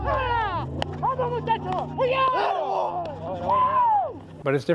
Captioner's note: teammates exclaiming excitedly